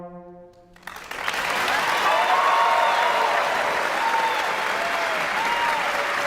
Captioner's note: audience applauds; audience cheers